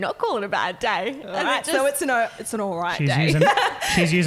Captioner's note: laughing